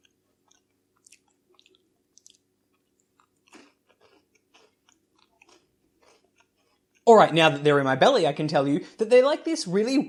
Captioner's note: eating Noises